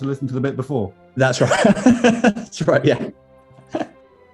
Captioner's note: laughing